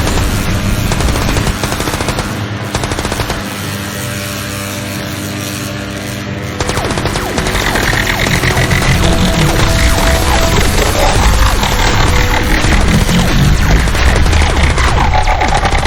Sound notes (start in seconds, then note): 3.6 electricity crackling; 6.4 lasers blasting; 6.6 gun firing